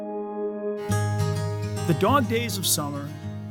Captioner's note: voiceover